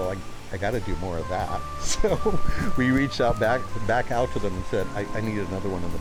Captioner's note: laughing